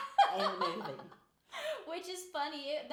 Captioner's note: laughing